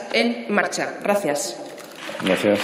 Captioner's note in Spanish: Aplausos